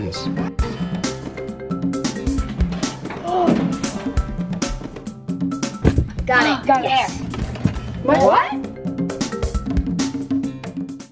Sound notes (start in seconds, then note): 0.3 spy music; 3.2 gasps